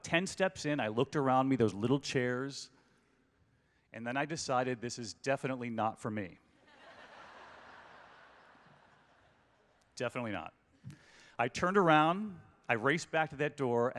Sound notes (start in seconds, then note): 6.6 laughter